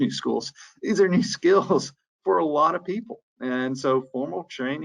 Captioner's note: chuckles